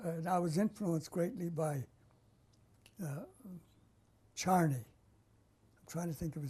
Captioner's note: pauses for 3 seconds